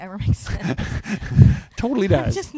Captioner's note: both chuckle